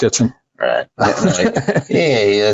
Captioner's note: laughing